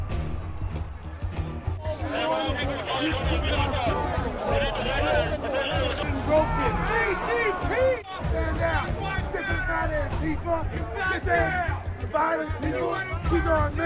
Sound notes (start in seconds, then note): 2.6 crowd yelling